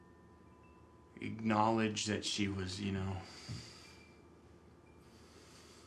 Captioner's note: sighs